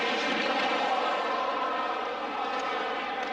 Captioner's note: hockey rink ambience